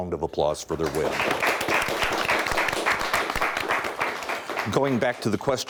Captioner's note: audience applauds